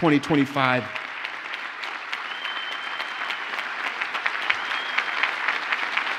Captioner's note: audience cheers and applauds